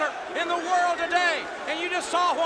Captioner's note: crowd cheering